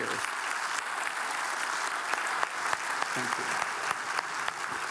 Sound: audience applauding

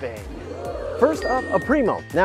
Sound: canned oohs

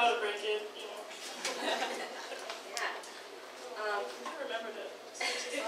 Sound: audience laughs

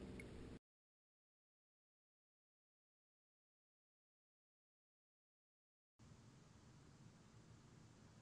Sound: silence

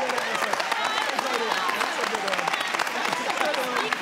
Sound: audience cheers

